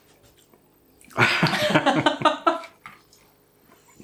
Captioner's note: laughter